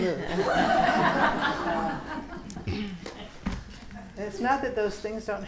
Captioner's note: students laughing